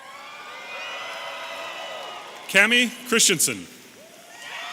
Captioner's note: audience applauding and cheering